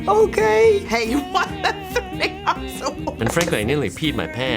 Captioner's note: laughs